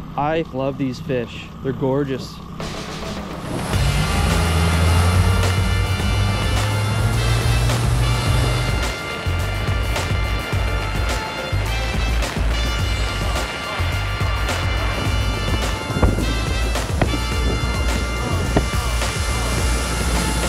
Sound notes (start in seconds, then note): 2.4 upbeat music; 3.5 boat engine roaring